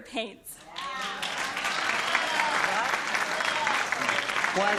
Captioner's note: applause